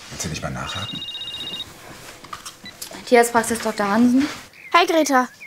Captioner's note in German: Telefonklingeln